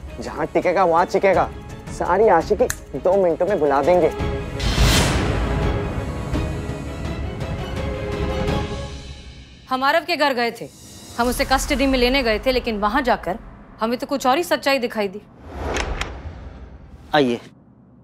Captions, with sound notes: He'll keep screaming. He'll forget his love without two minutes. [suspenseful music playing] I went to Arav's house. I had gone to take him into custody, but after going there, I found out a different truth. [door opening] Please come.